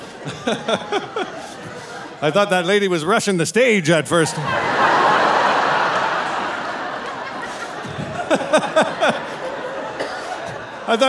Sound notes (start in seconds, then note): 0.2 laughing; 4.1 audience laughing; 7.8 laughing